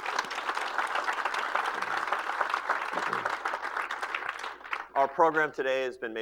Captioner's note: applause